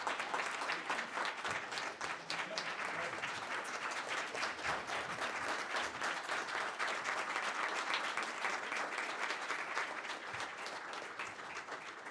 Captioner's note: applause